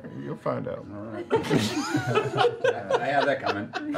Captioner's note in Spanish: risas